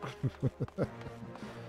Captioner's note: laughs